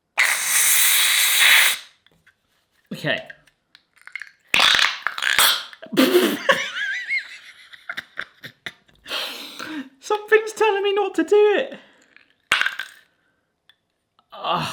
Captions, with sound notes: (bottle whizzing) Okay. (bottle whizzing) (laughs) Something's telling me not to do it.